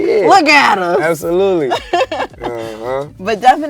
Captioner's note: laughs